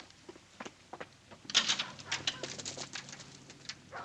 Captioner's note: footsteps Approaching; pebbles Rattle Against Window